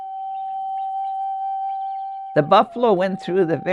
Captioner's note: wind instrument blowing gently; birds twittering distantly